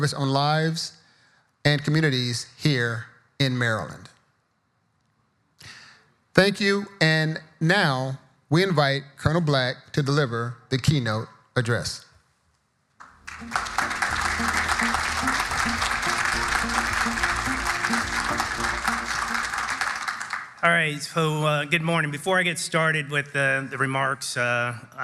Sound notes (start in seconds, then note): 13.0 audience applauding; 13.2 subdued music